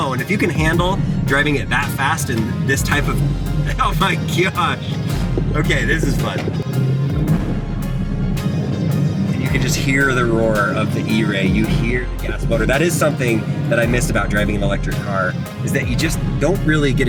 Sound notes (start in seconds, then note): 7.3 car engine revving; 7.3 gentle upbeat music